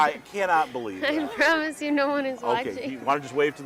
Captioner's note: laughing